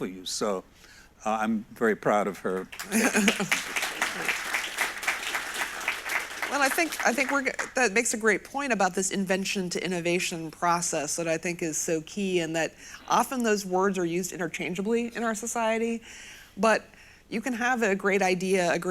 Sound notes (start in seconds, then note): 2.5 audience applauds